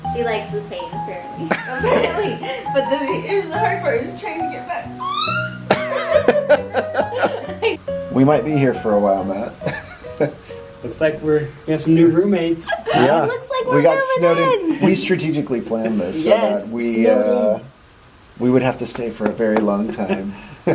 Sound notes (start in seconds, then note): 4.5 squeals; 10.4 laughs